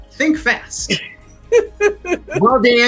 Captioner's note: laughs